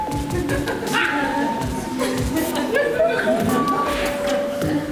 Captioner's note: audience laughs